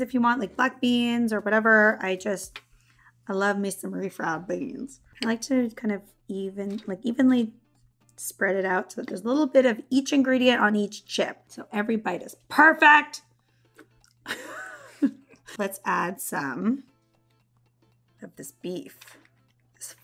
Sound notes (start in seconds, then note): 14.3 laughs